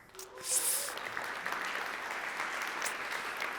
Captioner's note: applause